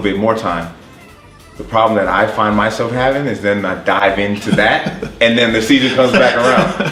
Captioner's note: laughs